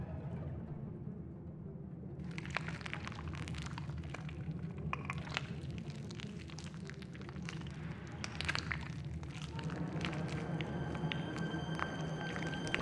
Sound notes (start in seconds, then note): 3.9 flesh squishing; 9.3 suspenseful music